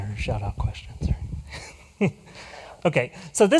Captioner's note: chuckles